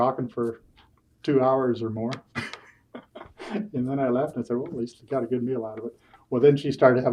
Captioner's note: laughs